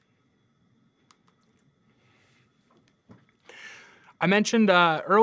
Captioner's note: computer mouse clicking